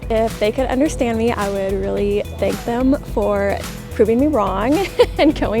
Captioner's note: laughs